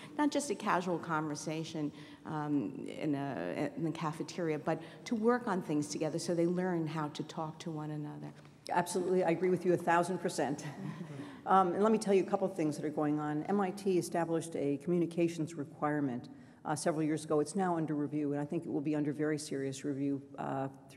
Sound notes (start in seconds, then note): 10.8 laughs